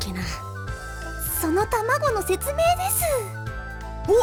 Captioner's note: whisper